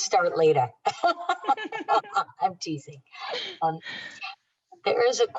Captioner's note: laughter